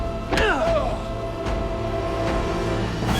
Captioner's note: men grunt; tense music intensifies